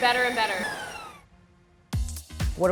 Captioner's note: machine whirs; funky music